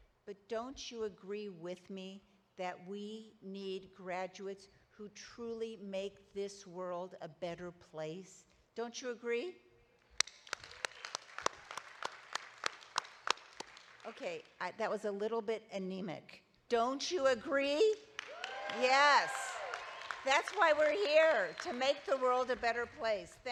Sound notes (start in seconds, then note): 10.2 audience applauding; 18.1 audience applauding; 18.3 person cheering